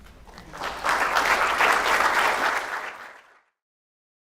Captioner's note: audience applause